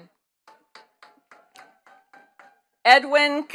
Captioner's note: attendees clapping